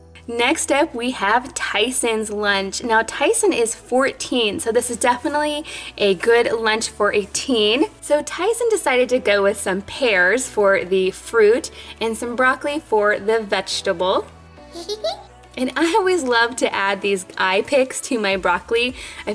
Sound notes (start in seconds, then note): 14.7 giggles